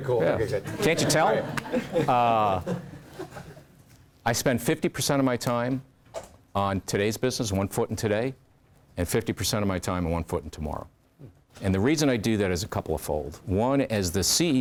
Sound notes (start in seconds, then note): 0.6 laugh